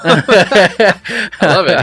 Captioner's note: both laughing